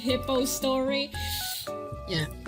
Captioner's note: hisses in frustration